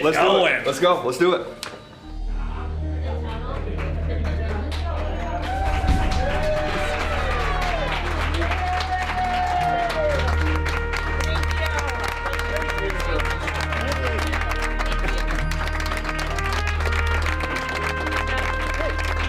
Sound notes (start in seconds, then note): 3.5 applause